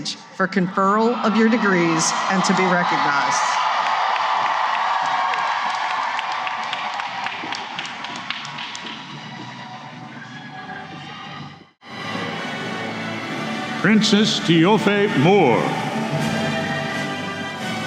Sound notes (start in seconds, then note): 4.0 cheering and applause